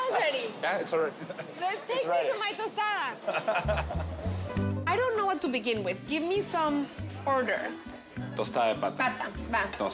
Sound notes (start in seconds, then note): 3.3 laughs